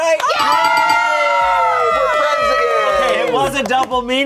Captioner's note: all cheering